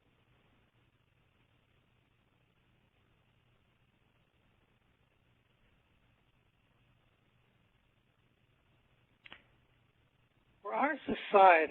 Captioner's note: pause